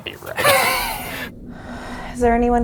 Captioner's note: both laughing